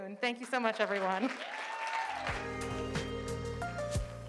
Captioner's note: audience applauding; calm music